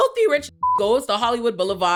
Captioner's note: beep